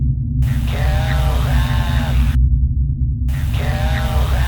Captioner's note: disembodied Voice